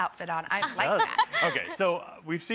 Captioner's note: laughs